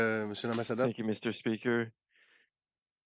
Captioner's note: speaking French